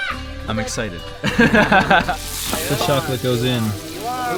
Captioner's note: laughing